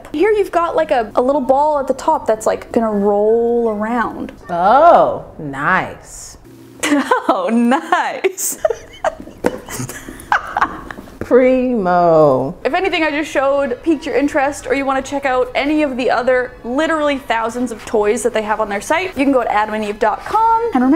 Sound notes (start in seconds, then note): 6.8 laughing